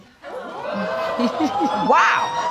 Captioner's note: audience exclaiming